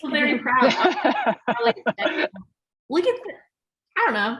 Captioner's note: laughter